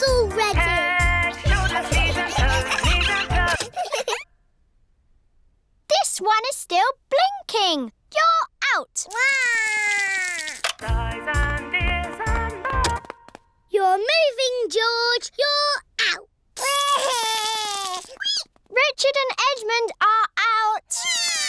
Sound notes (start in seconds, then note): 1.4 giggling; 3.4 music stops; 9.1 cries; 13.2 music stops; 16.6 cries; 21.2 both cry